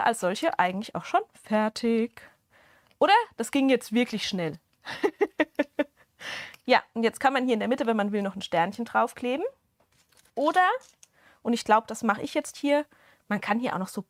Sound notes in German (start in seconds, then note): 4.8 Gelächter